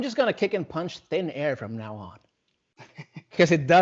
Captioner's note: laughing